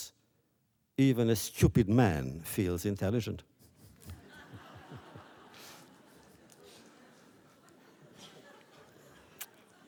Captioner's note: laughter